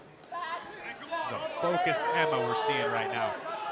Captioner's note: crowd cheering